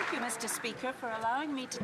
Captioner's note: some Applause